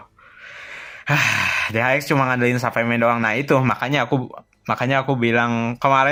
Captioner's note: sighs